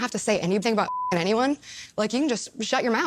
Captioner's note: beep